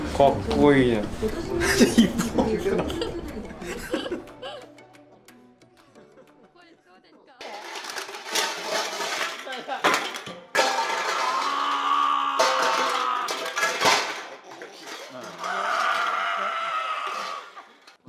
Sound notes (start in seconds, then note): 4.2 laugh